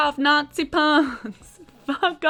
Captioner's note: laughing